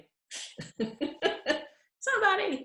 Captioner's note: laughing